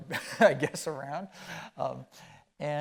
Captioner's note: chuckling